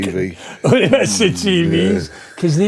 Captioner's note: laughing